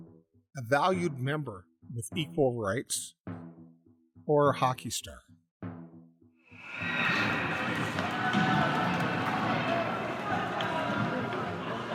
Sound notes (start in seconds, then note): 6.6 whistle blowing; 6.6 sound of a crowd; 9.8 crowd cheering